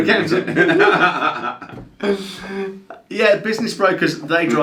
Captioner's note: both laugh